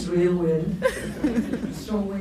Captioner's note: laughs